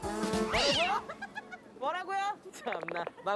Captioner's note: threatening